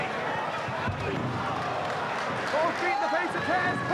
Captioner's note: spectators cheering and applauding